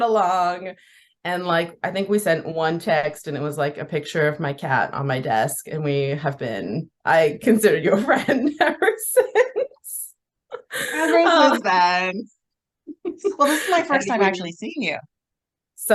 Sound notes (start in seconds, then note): 10.5 laughs